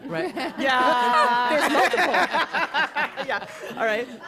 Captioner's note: laughter